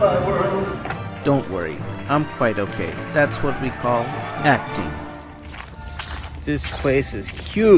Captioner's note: fake audience applause and cheering